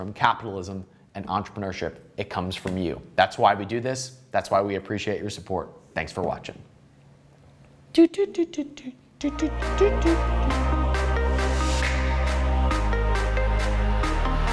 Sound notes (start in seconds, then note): 9.2 humming; 9.2 upbeat music